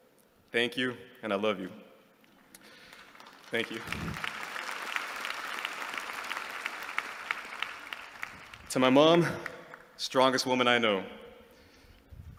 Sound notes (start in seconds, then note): 4.2 applause